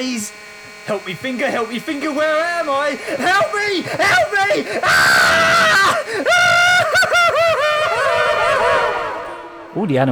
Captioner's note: screaming and laughing